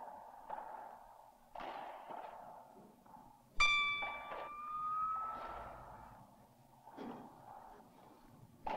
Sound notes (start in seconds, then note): 3.2 tingling